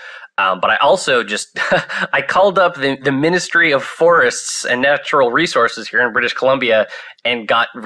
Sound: laughs

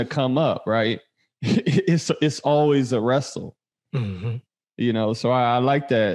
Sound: chuckles

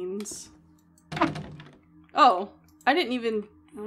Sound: window Rattles

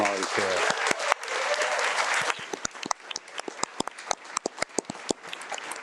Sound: attendees and board members applaud

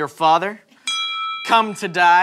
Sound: ding

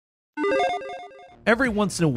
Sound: electronic chiming

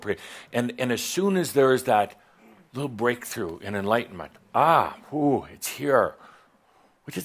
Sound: none

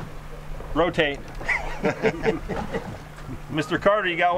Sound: laughs

